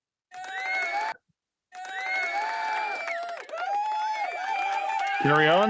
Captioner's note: audience cheering